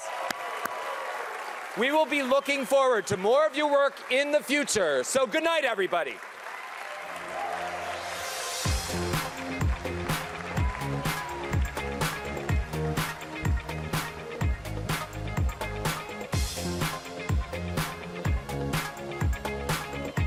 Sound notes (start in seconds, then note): 10.0 cheering and applauding